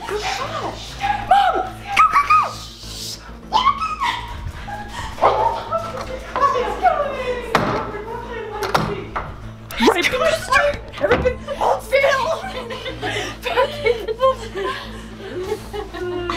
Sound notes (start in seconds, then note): 5.1 barks; 15.0 laughs